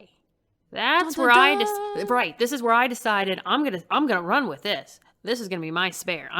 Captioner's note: makes musical sounds